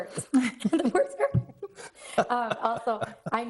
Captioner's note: laughs; board members laugh